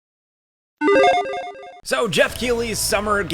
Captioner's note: logo beeps